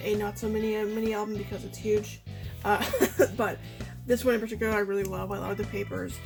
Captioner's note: laughs